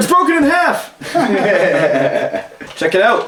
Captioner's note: laughing